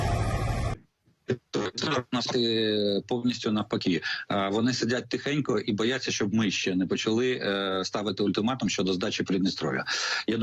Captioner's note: in Ukrainian